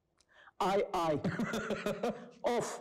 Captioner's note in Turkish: Gülüyor